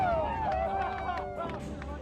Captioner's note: crowd cheering